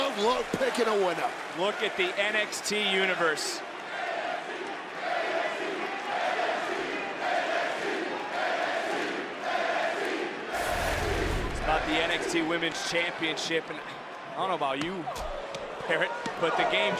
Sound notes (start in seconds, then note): 3.8 crowd chants "nxt"